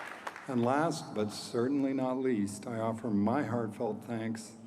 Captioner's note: applause